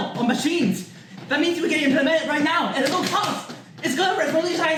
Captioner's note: multiple slaps